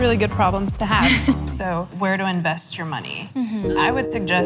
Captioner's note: laughs